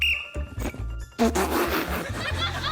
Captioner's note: blows whistle